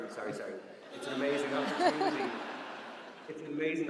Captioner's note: audience laughs